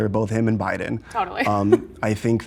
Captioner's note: laughs